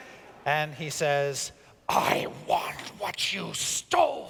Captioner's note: none